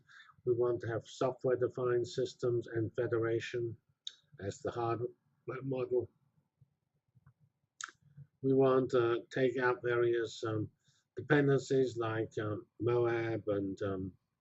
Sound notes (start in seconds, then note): 5.5 pause